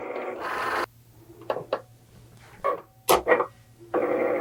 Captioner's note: machine whirring